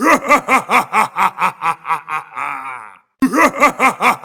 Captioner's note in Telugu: నవ్వు